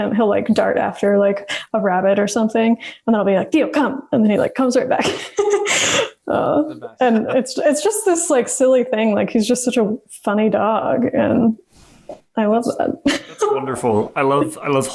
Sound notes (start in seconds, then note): 5.0 laughs; 13.0 laughs